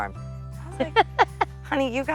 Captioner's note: laugh